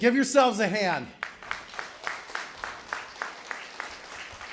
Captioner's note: applause